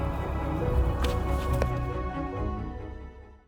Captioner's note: book shuffles